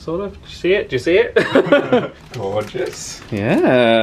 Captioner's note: laughs